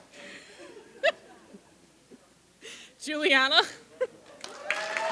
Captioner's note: chatter; chuckles; applause